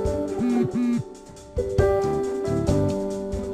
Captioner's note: ring! ring!